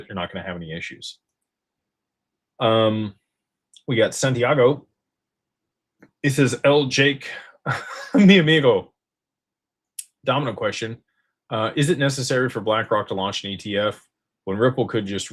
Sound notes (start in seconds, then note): 7.6 laughter